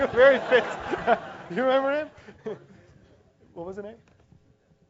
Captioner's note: laugh